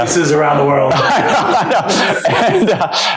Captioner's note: laughter